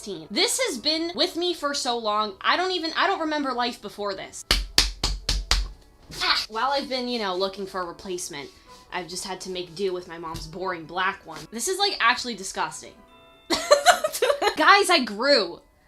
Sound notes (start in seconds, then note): 4.5 leg-slapping noises; 13.6 laughs